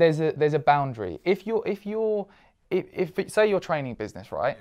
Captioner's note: stammering